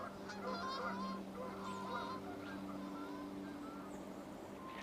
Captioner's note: birds calling